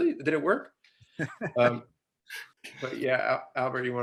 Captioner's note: laughing